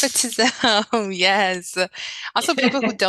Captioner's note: laughing